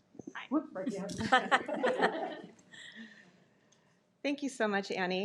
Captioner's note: participants laughing